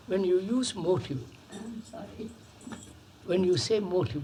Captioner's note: laughs